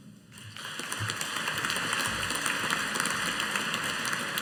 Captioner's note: audience applauding